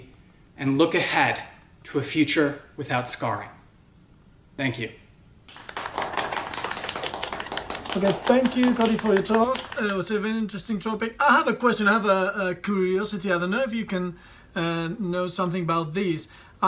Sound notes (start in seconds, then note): 5.4 participants clapping